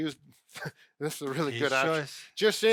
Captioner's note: chuckles